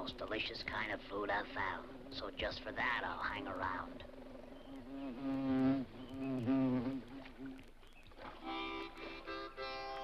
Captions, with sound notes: So just for that, I'll hang around. (bee buzzes) (water splashes) (mellow harmonica music)